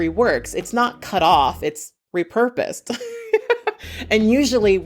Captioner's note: chuckles